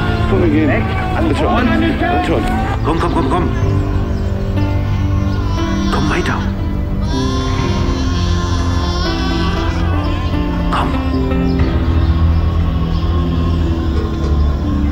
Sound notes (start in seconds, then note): 7.4 scream; 11.2 babble of voices